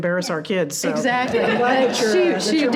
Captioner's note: all laughing